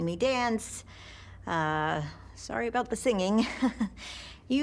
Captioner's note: chuckles nervously